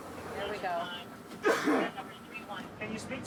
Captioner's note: coughs